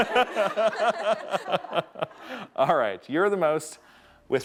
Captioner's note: everyone laughing